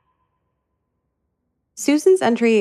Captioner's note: none